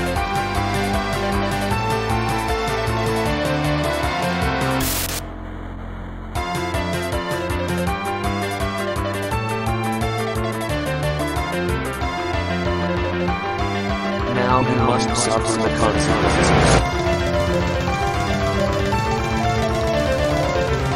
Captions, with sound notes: Play games and have fun! *GLITCHING* Make sure not to anger Sam! ... Now you must suffer the consequences. uh oh